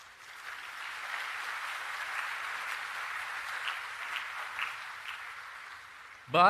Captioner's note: applause